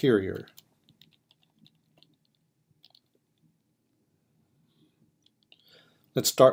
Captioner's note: typing